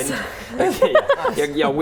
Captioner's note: laughing